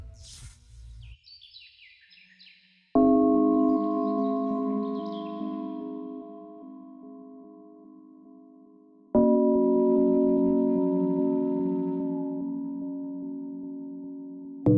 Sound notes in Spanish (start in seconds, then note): 1.1 Canto de pájaros; 3.2 Música de suspenso